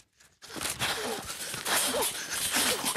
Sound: heavy breathing

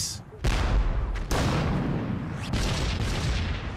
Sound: missiles banging

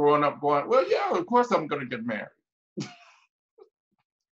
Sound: laughs

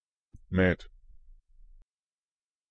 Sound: fast Pronunciation

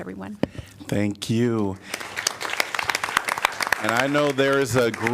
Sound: applause

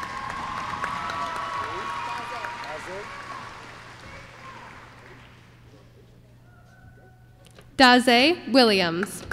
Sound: applause

